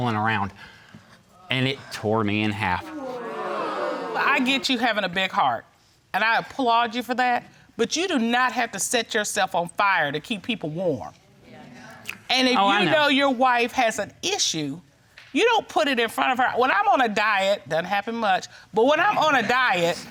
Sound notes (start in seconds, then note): 2.8 audience gasps